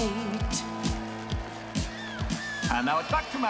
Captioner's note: Аплодисменты публики